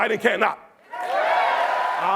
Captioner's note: applause